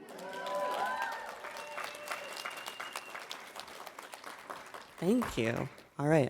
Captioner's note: audience applauding and cheering